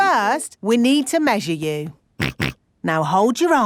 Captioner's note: snorts